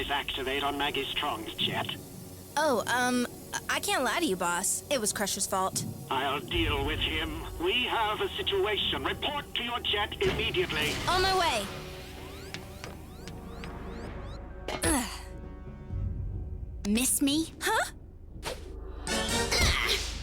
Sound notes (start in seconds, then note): 14.8 landing grunt